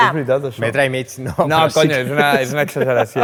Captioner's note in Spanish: ríe